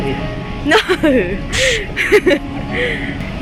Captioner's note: laughs